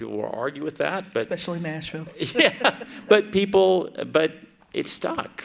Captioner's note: laughs